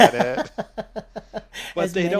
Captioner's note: laughing